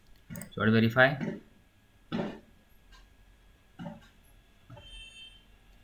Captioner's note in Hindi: गला साफ़ करने की आवाज़